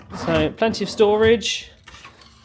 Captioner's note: none